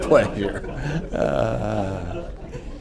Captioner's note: laughter